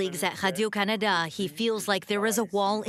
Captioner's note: foreign language